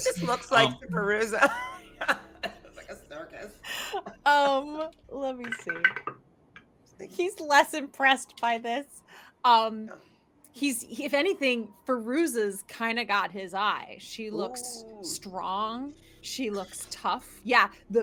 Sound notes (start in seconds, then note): 1.9 laughing; 6.1 dice rolls